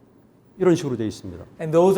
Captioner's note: speaking in Korean